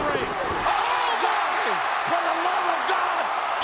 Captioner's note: audience cheers